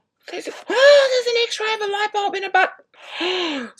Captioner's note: gasps; gasps